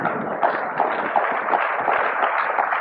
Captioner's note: applause